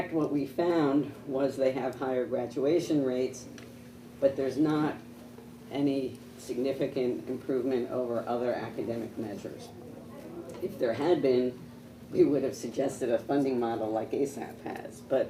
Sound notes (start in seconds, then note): none